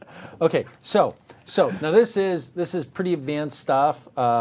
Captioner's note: laugher